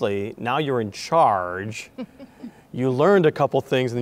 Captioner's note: chuckling